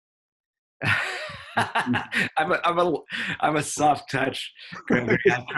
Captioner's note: laughs